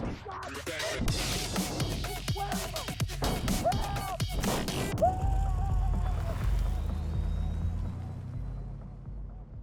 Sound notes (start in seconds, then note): 0.7 muffled yelling